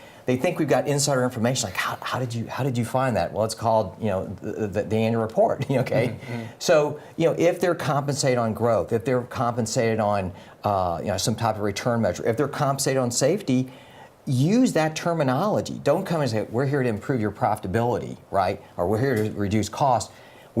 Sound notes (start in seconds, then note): 6.0 laugh